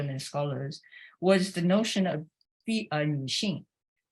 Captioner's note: speaks Chinese